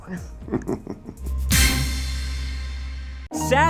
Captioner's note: laughs